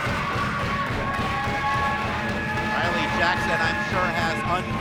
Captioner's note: banging